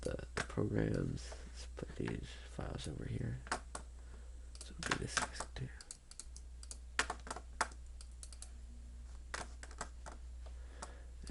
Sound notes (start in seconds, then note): 5.3 clicking